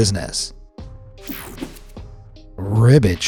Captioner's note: mellow music; graphic whooshes